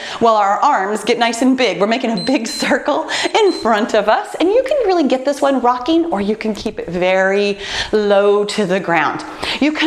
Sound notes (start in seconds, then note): 2.0 timer beeps